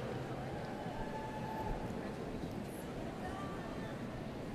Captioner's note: cheers and applause